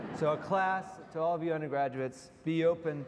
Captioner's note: audience laughs